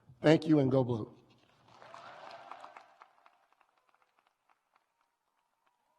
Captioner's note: audience applauds